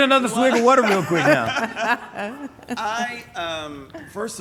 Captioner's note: laughing